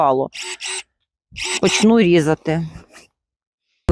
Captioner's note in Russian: звук секатора